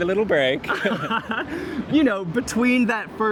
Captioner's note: laughter